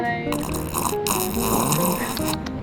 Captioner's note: sound of drinking